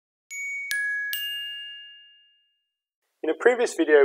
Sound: dinging

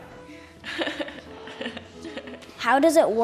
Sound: laughs

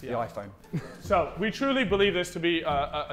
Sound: Vikram chuckling

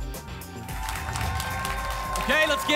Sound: applause and cheering

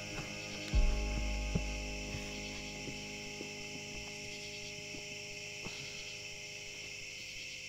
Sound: frogs croaking; insects chirring

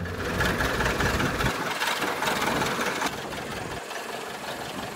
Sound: aircraft engine sound

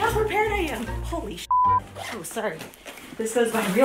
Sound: beep

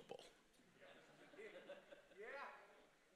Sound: congregation laughing

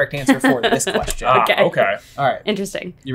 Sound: laughs

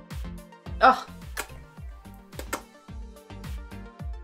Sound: kisses; soft upbeat music

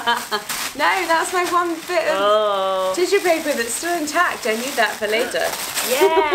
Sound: excited noises

